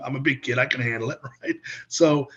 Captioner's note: laughs